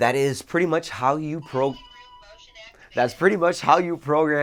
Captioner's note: motion speaking